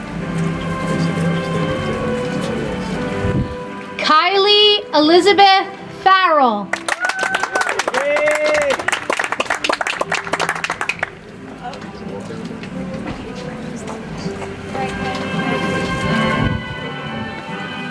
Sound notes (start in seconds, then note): 6.7 audience applauds; 11.7 soft music